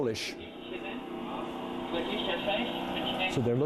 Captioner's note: speaking in foreign language